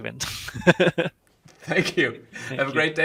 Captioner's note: laughing